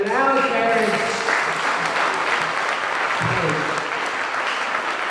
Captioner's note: audience clapping